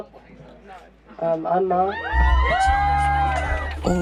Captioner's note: crowd cheers